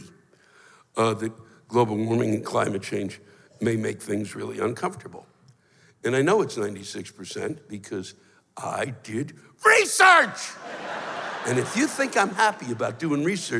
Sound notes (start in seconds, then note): 10.6 laughter